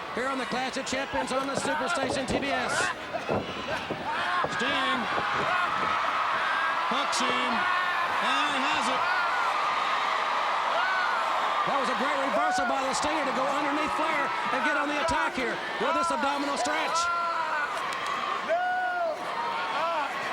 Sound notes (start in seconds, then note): 4.0 Ric exclaiming; 9.6 crowd cheering; 15.8 Ric yelling